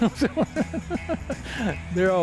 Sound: laughs

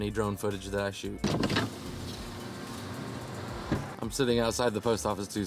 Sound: sound of window opening

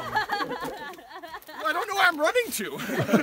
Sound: laughter

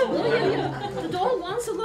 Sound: laughter

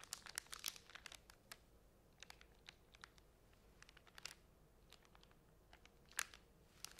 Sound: plastic crinkling

